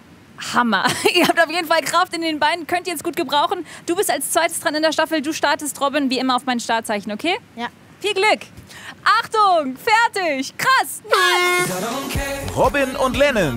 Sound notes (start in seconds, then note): 11.1 Startsignal